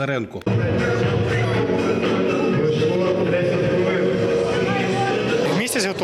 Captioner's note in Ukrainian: шум в залі